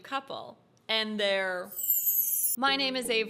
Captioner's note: sparkle sounds